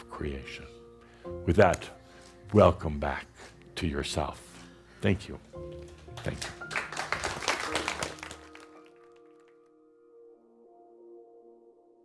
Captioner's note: audience applause